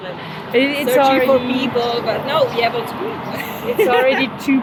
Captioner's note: laughts